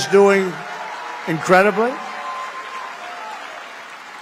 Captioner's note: applause